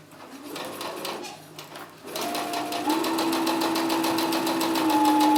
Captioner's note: sewing machine running